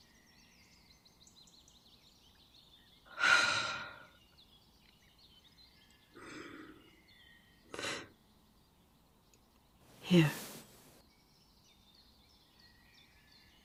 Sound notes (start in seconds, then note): 3.0 long exhale; 9.8 rustling